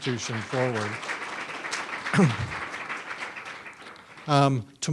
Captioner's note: audience applauds